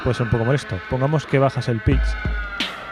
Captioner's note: turntable